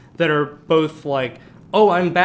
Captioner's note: none